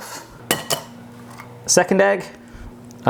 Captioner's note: cracks egg